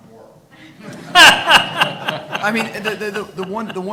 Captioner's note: audience laughing